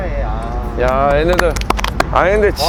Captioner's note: clap clap clap